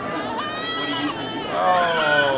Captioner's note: baby crying